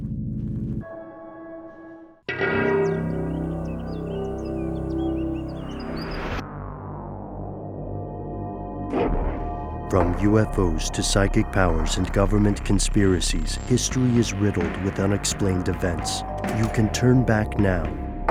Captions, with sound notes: (ominous music) - [Voiceover] From UFOs to psychic powers and government conspiracies, history is riddled with unexplained events. You can turn back now